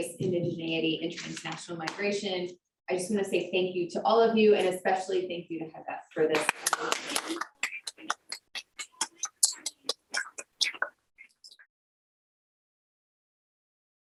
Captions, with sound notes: Indigeneity and Transnational Migration, I just wanna say thank you to all of you and especially thank you to Heba for this. (crowd applauding)